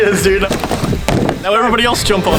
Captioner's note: feet stomp on key